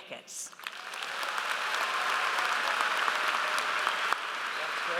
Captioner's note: audience applauds